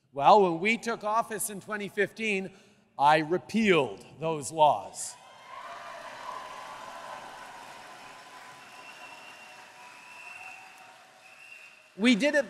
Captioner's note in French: Acclamations et applaudissements